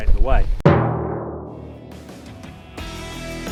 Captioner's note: gong rings; upbeat guitar music